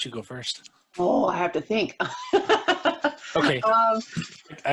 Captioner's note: laughs